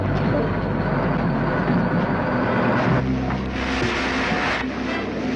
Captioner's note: engine whirring